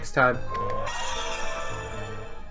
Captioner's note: sound effect